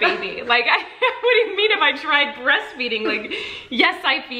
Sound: laughs

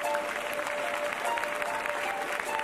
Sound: applause

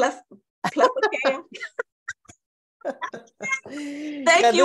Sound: laughter

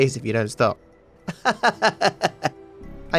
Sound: laughs

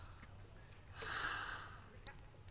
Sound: exhales deeply

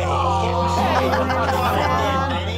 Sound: crowd awws

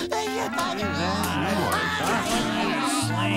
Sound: others grumbling

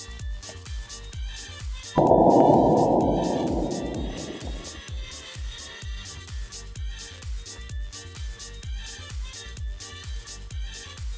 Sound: explosion, but in slow motion

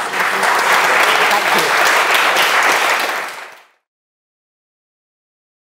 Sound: audience applauding

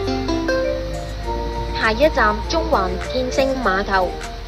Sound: Cantonese

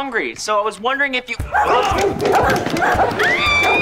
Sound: barking

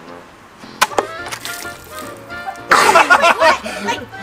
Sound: box hitting target; water splashing; dad and kids laughing

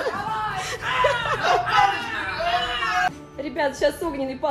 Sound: agressive fighting noises

